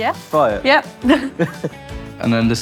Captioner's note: both chuckle